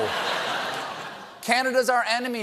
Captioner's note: laughter